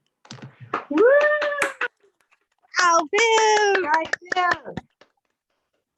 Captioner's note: applause